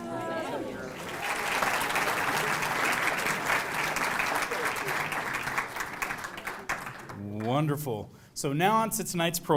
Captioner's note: applause